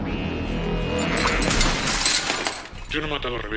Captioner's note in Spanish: Cristal roto